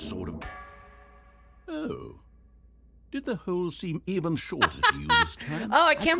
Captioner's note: clang; laughing